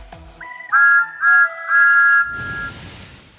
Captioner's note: thomas whistles